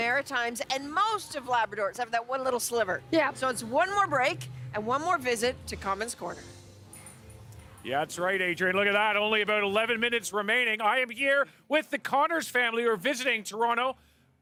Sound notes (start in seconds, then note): none